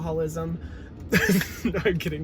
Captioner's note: laughs